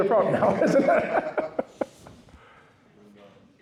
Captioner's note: laughs